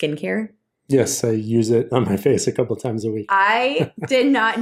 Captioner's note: laughs